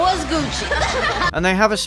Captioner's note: laughter